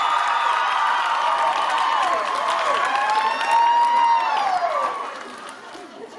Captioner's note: interrupted by cheers; cheering continues